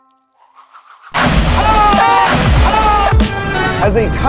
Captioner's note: ice shattering